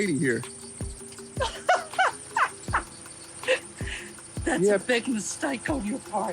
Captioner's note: laughs